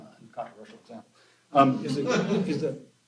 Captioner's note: laughter